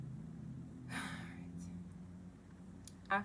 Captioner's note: deep sigh